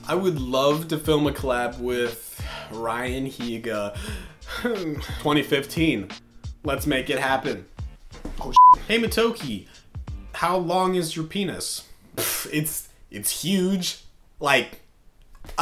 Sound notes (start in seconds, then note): 8.5 beep; 12.1 scoffing